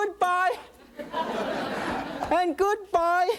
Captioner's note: audience laughing